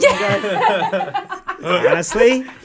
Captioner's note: all laughing